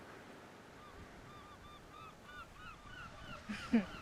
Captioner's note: seagulls mewing; Cecile chuckles